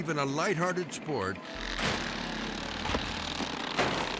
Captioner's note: mowers buzzing; mower crashing